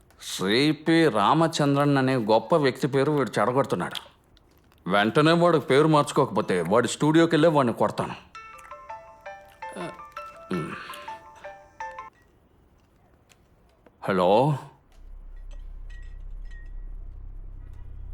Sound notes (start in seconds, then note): 8.3 mobile phone chimes